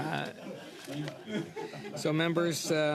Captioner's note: laughter